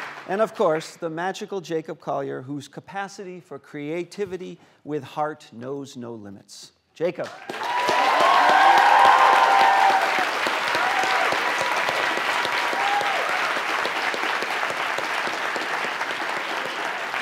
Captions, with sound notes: And of course, the magical Jacob Collier, whose capacity for creativity with heart knows no limits, Jacob. [APPLAUSE]